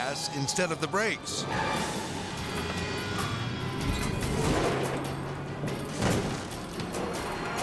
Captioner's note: tires screeching; intense music